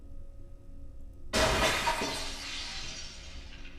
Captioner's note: item smashes